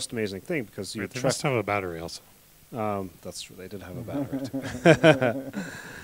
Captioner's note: laughter